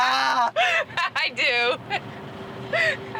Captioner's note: laughs